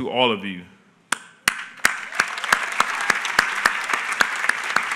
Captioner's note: applause